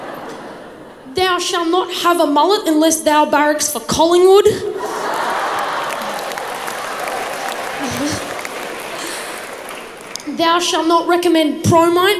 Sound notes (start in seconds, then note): 4.7 crowd laughs